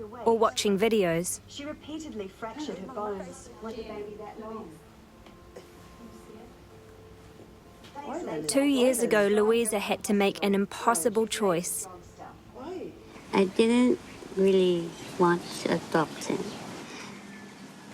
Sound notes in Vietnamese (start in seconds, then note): 3.3 Tiếng tivi